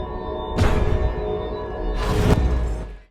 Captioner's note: door whams